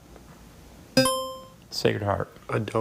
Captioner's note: buzzer chimes